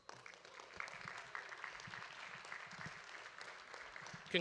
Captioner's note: audience applauding